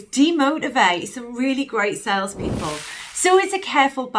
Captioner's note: whooshing sound